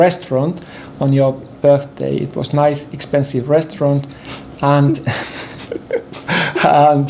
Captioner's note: laughter